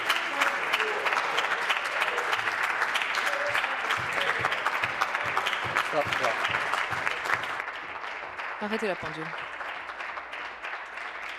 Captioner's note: applause